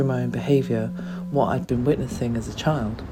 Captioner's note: gong